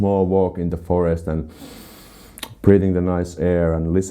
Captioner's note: sniffing